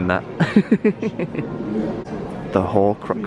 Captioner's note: laughing